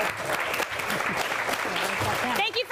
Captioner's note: applause